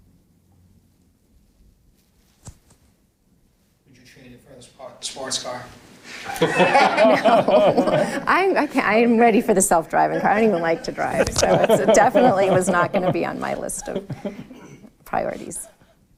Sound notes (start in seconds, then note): 6.2 laughing